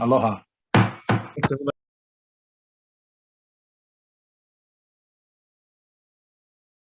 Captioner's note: gavel banging